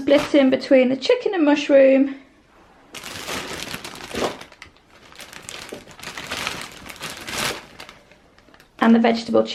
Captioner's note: bag rustling